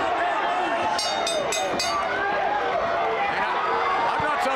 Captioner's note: bell ringing